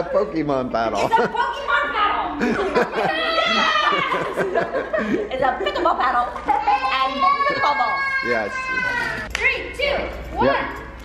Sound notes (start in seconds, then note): 0.0 laughing; 2.3 laughing; 7.8 yelling